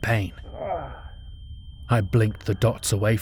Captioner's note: SFX high pitched ringing while hubbub fades in